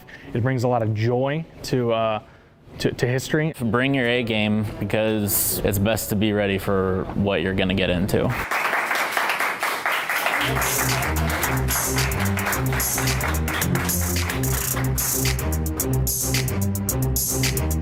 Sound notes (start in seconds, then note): 8.4 applause; 10.4 suspenseful music